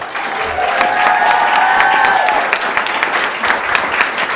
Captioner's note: audience applauding